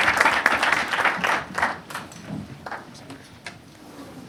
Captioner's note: attendees applauding